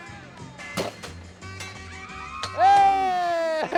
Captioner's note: hammer thumping; bell dinging